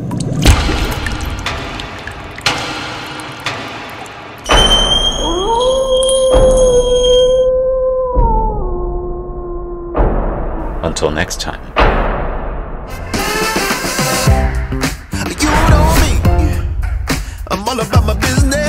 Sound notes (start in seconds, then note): 4.3 jump Scare; 4.5 high Pitched Scream; 5.0 wolf Howl